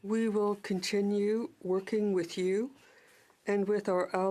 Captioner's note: speaking French